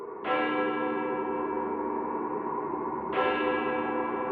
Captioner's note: bells chiming